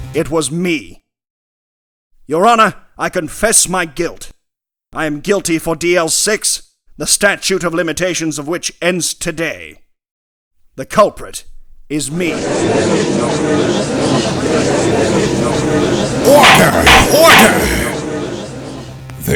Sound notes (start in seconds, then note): 12.2 gallery chattering